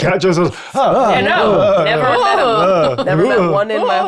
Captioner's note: players chattering